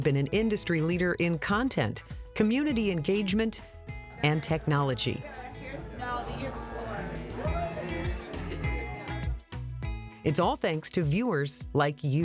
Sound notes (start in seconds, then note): 7.2 people chattering; 9.2 bright music